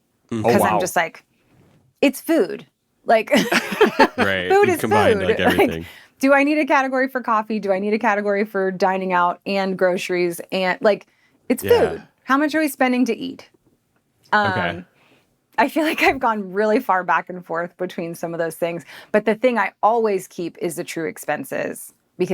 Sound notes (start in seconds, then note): 3.3 group laughing